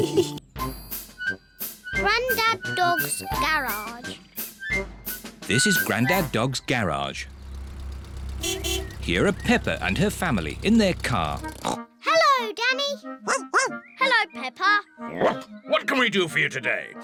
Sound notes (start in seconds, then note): 7.9 horn beeps; 11.5 snorts; 13.2 barks; 15.2 barks